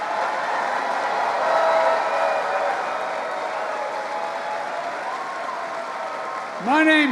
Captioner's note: applause